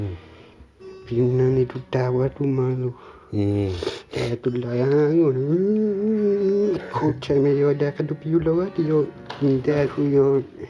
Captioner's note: speaking aboriginal language